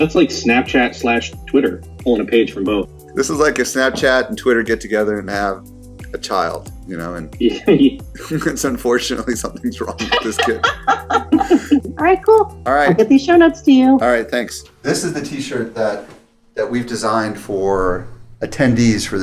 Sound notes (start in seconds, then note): 9.9 laughter